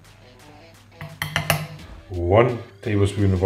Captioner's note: spoon taps bottom of bowl